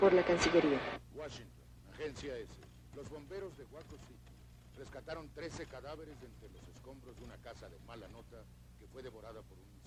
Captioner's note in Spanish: TV in background